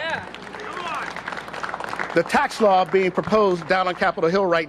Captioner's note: applause